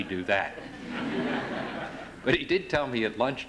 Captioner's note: laughter